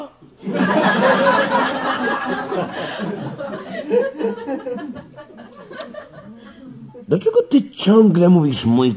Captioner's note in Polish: śmiech